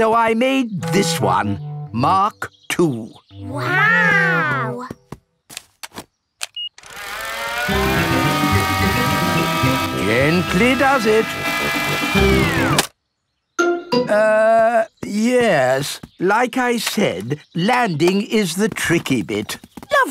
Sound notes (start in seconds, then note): 6.5 beeps; 6.8 plane humming; 12.5 humming stops